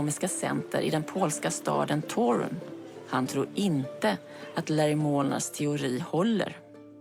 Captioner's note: reporter speaking foreign language